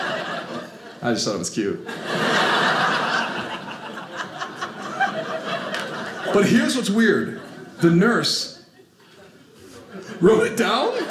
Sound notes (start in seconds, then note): 1.8 audience laughing